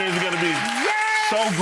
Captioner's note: crowd applauding